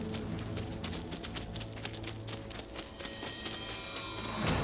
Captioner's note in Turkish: Ayak sesleri